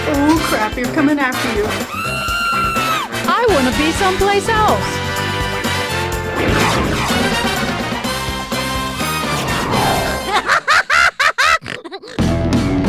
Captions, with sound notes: Oh, crap they're coming after you! I want to be someplace else! [ghost laughing]